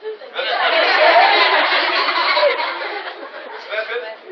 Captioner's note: laughter